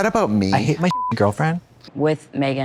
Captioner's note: beep